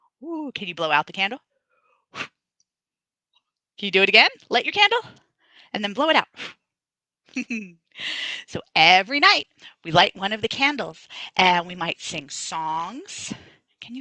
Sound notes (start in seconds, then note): 3.1 blows; 7.0 blows; 7.3 laughs